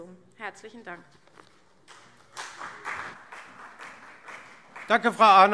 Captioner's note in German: Beifall CDU und BÜNDNIS 90/DIE GRÜNEN